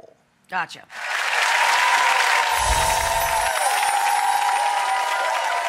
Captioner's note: audience applauds